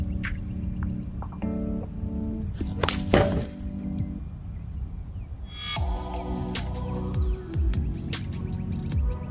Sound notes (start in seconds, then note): 3.1 loud thud